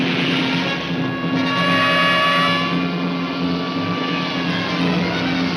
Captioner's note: tires screech